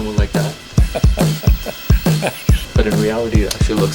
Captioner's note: laughing